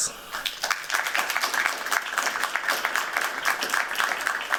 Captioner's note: applause